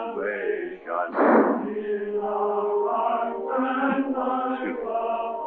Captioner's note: gunshots